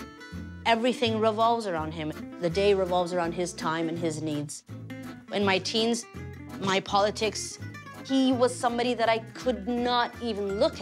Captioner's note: speaking foreign language